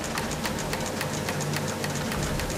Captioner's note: machinery humming